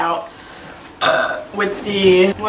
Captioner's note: burp